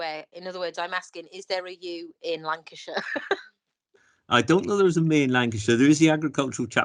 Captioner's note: laughs